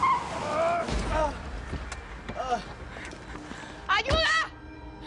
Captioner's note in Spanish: Chirrido de llantas; Quejidos